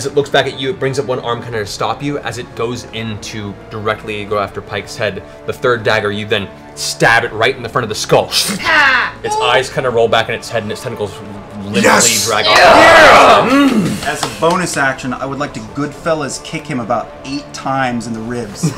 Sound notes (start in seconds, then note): 12.3 cheering; 18.6 laughter